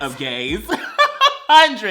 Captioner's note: laughs